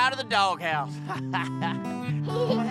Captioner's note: chuckling